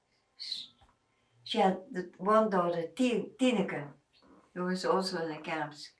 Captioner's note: non-english